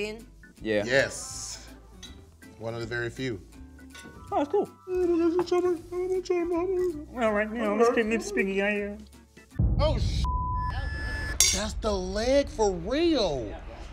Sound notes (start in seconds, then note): 10.2 beep